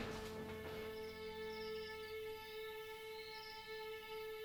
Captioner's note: gentle music; crickets chirping